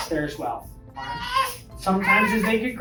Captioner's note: baby babbles